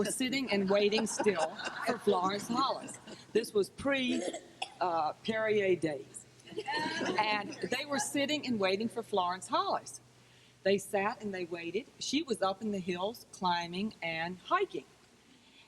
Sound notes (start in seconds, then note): 4.1 audience member coughs; 6.5 crowd laughs